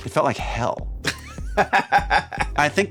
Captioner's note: laughing